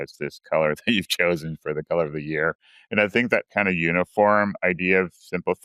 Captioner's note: laughs